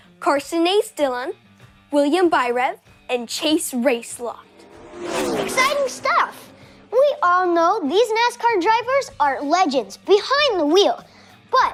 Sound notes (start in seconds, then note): 3.7 car engines roaring